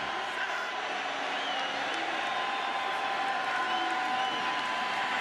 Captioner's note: crowd clamoring